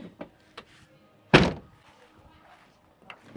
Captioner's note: door slams